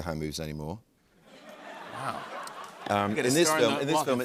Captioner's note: laughter